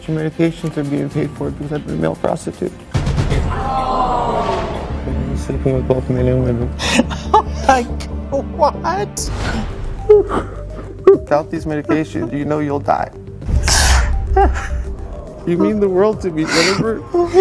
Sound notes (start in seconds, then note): 3.4 audience screaming; 9.9 crying